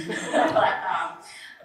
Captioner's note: laughter